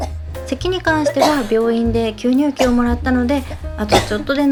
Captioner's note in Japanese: 咳喘息